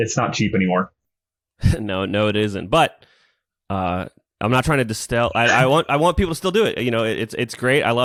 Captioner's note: laughs